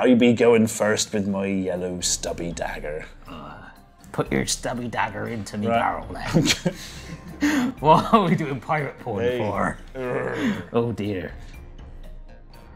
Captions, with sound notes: Me goin first with my yellow stubby dagger Put your stubby dagger into me barrel then [giggles] What are we doin pirate porn for Rrrrrr Oh dear